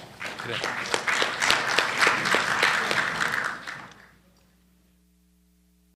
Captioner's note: applause